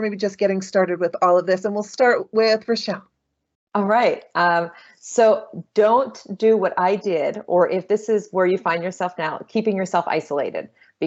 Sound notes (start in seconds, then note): none